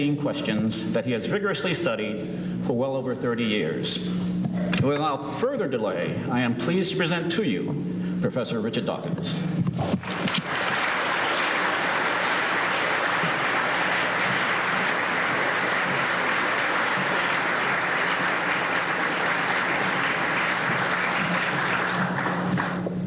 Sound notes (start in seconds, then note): 10.2 applause